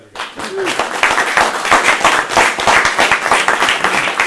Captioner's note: everyone applauds